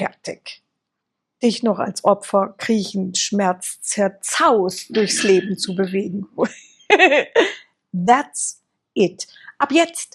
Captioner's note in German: gelächter